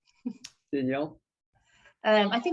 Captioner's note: chuckles